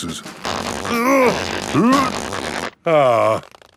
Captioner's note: grunting